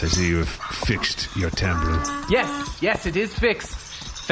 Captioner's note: jingling